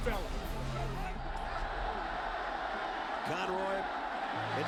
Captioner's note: crowd cheering